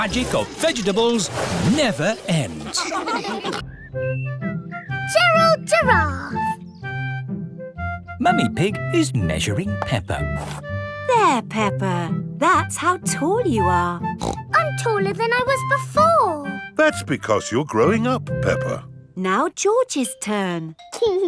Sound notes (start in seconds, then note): 14.1 snorts